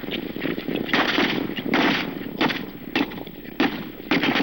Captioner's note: gunshots